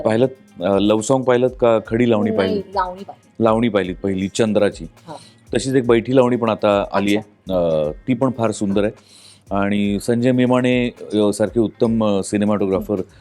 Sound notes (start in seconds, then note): none